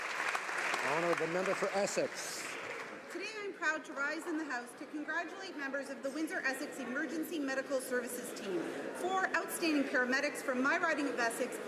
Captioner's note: some Applause